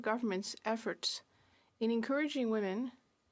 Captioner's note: speaking French